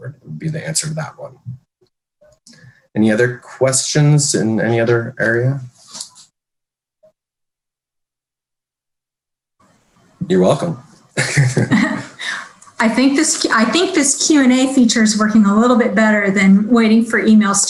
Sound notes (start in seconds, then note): 11.1 chuckling